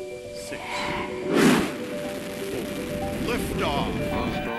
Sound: whooshing noise

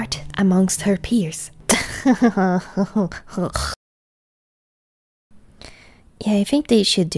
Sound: pig laugh

